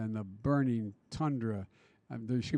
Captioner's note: none